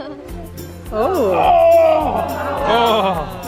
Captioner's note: groaning